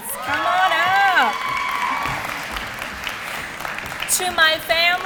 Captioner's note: applause